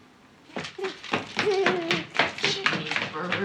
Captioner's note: laughing